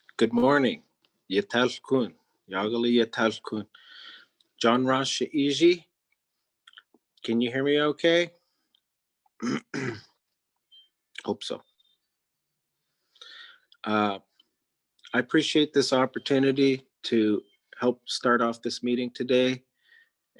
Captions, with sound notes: Good morning. (speaking in Native Language) Can you hear me okay? Hope so. I appreciate this opportunity to help start off this meeting today